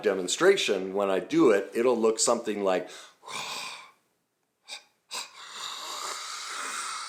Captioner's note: staggered exhale